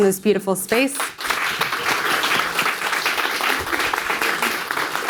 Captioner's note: audience applauding